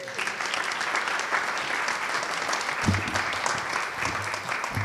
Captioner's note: audience clapping